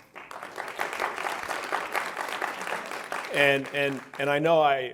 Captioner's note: audience applauds